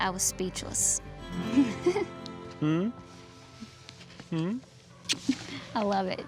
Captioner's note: giggles